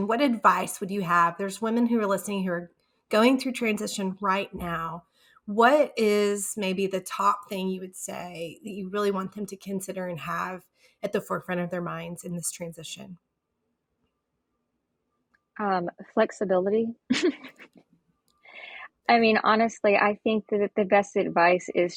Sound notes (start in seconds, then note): 17.2 laughs